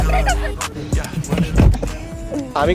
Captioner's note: door shuts off